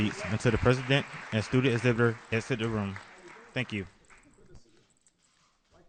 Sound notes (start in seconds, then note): 3.0 applause